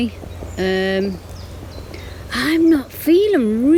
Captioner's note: birds chirping